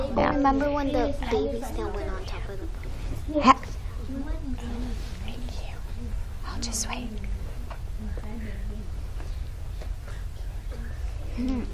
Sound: whispering

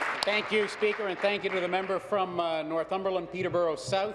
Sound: applause

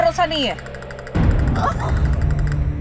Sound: sound of bombs

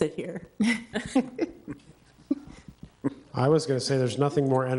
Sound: trustees chuckle

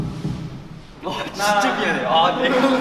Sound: failed not to laugh

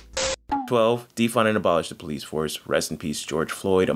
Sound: beep

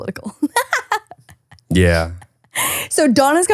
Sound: laughing

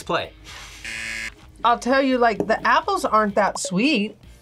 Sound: buzzer

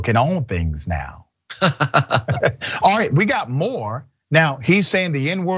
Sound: laugh

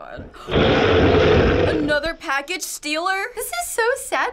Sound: gasping

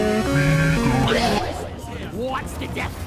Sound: death sound

